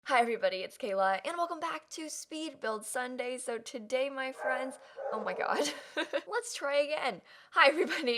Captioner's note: dog barking